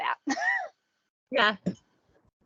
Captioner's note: laughing